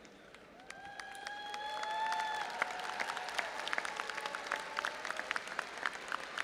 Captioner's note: audience applauding and cheering